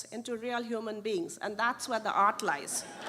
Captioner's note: laughter